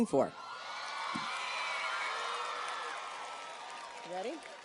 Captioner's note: audience cheers and applauds